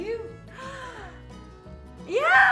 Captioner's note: inhales loudly